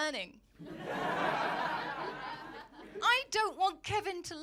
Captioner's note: audience laughing